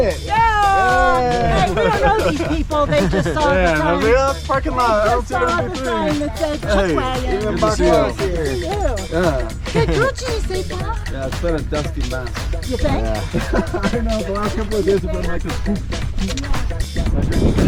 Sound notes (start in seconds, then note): 15.1 puff